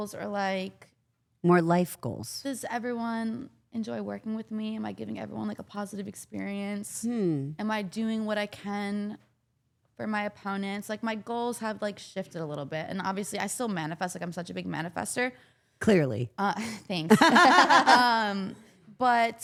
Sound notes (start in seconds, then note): 17.1 all laughing